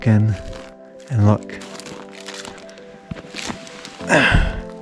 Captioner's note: footsteps crunching; bottle clinking; sighing